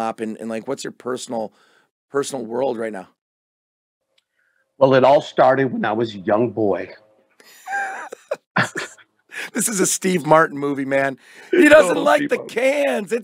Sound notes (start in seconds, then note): 7.4 both laugh